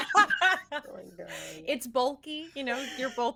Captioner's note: everyone laughs